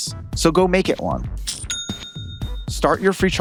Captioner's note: cash register dings